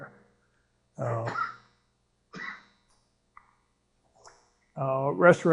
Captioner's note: cough